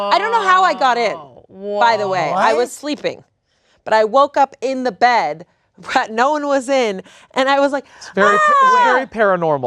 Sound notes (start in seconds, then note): 8.1 yells